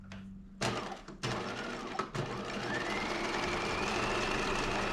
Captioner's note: sewing machine whirring